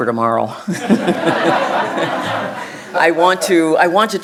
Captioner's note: audience chuckling